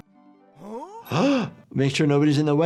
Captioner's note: doctor gasps